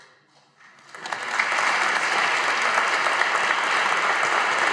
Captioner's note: audience applauding